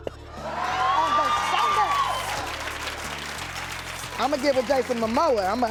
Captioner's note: cheering and applauding